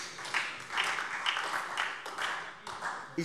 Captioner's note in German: Beifall SPD